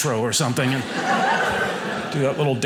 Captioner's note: audience laughing